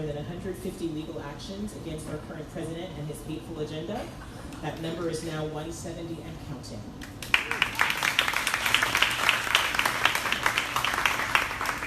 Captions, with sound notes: than 150 legal actions against our current president and this beautiful agenda. That number is now 170 and counting. (crowd applauding)